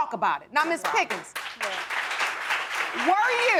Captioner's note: audience applauding